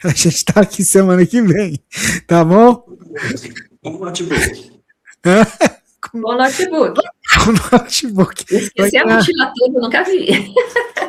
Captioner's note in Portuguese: risadas